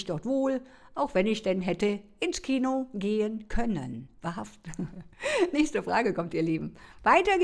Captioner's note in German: gelächter